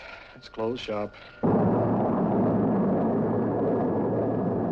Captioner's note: motor a jato ruge